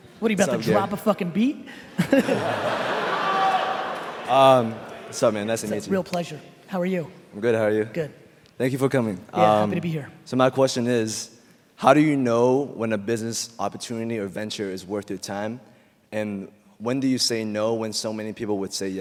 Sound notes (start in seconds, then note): 1.8 laughing